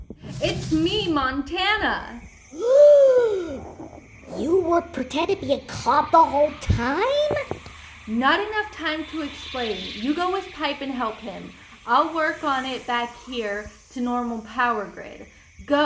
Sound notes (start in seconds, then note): 2.4 gasp